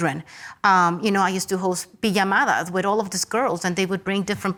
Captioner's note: speaks Spanish